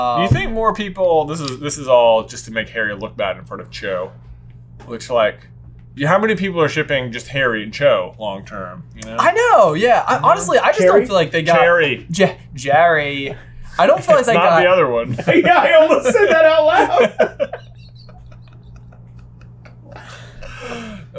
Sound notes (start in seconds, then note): 14.9 laughing